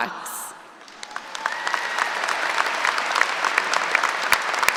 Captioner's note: applause